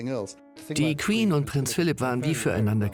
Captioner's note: voiceover